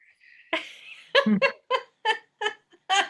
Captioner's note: laughs